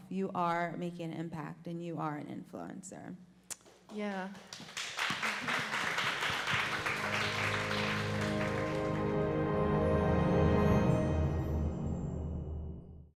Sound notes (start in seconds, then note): 4.4 crowd cheers; 6.4 instrumental music